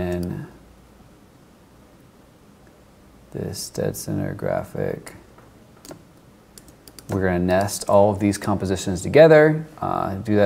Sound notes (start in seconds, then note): none